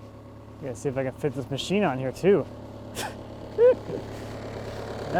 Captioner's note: laughs